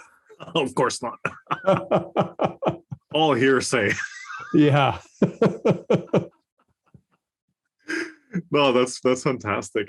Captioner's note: laugh